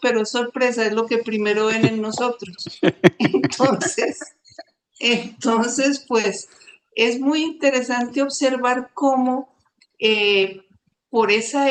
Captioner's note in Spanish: risas